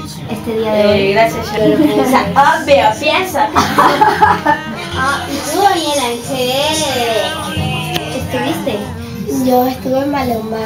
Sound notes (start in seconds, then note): 3.4 laughs